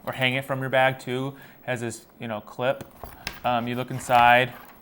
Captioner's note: exhales rhythmically